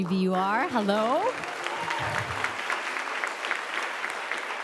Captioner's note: applause